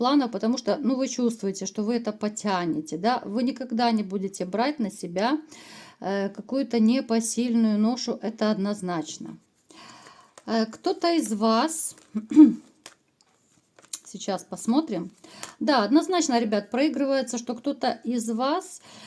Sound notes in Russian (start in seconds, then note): 12.2 откашливается